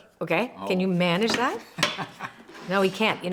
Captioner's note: laughs